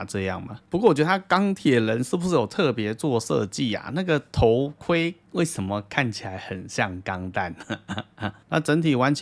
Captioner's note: laughs